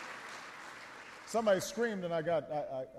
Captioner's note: applause